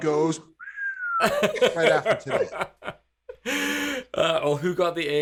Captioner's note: laughing